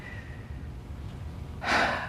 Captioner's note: sighs